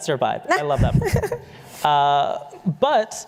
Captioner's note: laughs